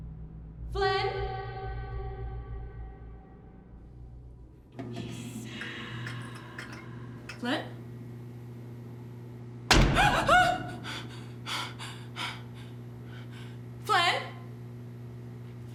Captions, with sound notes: Flynn? (EERIE WHISPERING) Flynn? (THUD!) - (GASPS) (BREATHES HEAVILY) Flynn?